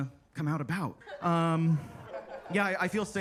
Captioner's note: attendees laughing